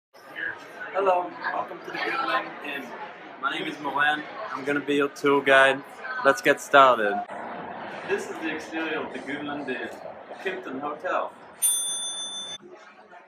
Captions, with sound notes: Hello, Welcome to the Goodland Inn My name is Moran I'm gonna be your tour guide Let's get started This is the exterior of the Goodland Inn, a Kimpton Hotel [bell rings]